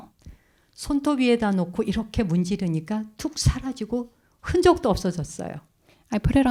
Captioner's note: speaking in Korean